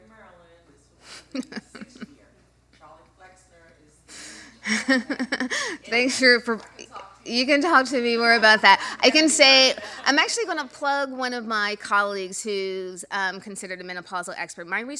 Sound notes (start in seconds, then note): 1.2 laugh; 4.6 chuckling